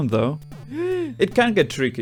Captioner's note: gasps